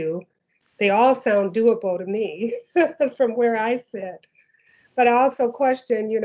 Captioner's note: laughs